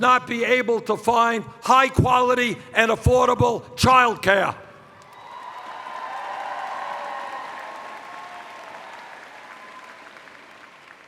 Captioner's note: cheers